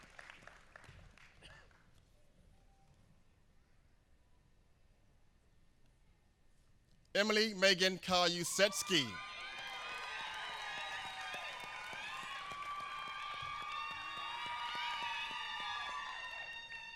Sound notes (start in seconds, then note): 1.9 applause